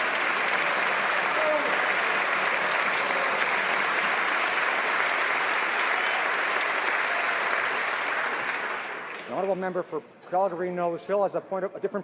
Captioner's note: some Applause